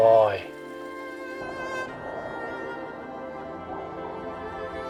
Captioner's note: train glides